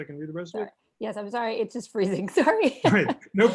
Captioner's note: laughter